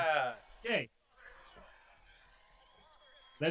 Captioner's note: cheering